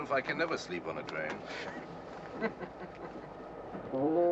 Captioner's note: men chuckle